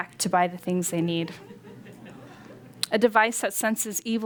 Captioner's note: laughter